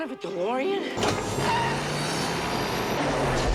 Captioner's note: tires screeching